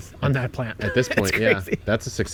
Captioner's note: laughing